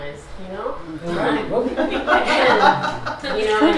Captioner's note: laughter